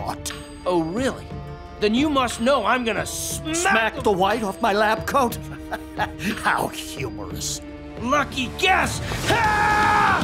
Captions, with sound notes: Oh, really? Then you must know I'm going to smack Smack the white off my lab coat? [chuckles] How humorous. Lucky guess! [yelling]